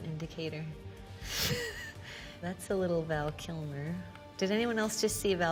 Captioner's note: laughing